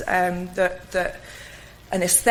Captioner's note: stutters